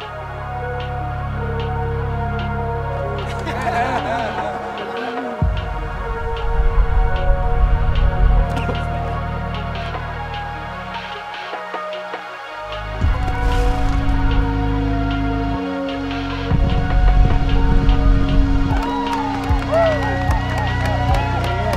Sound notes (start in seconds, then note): 0.1 bright ethereal music; 3.2 laughter; 16.8 horses trotting; 18.6 cheering